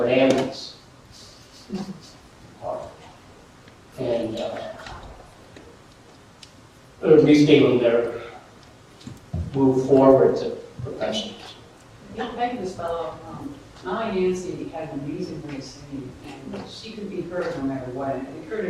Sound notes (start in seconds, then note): 1.0 audience stirs